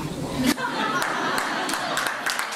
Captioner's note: laughter; applause